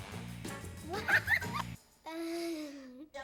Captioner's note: laughing